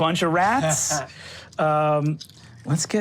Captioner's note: chuckles